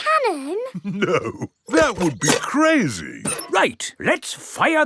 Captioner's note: chuckling